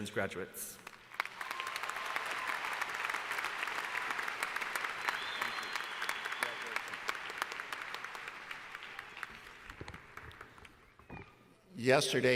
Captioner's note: applause